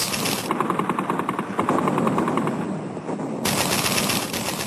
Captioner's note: artillery fires